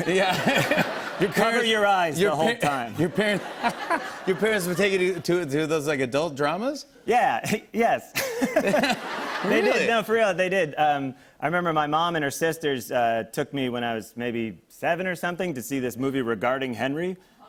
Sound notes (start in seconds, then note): 0.0 laughter; 3.0 laughter; 8.1 laughter